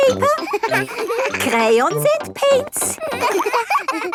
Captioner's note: all laughing